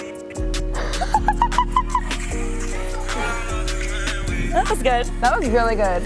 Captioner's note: upbeat music; Heather laughing